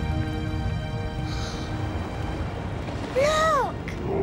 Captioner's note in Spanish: suspiro